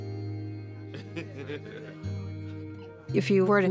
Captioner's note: laughter